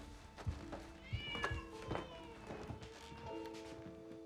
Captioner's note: cat yowls